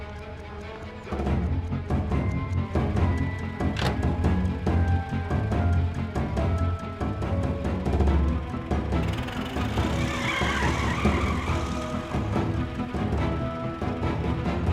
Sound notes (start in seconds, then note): 8.3 tires screeching